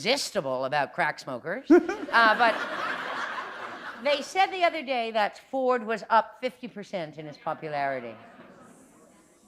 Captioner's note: laughter